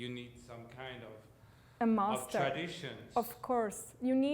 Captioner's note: voiceover